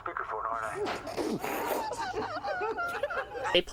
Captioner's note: laughter